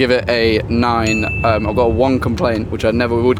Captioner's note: bell dinging